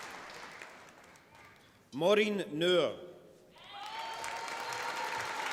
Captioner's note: applause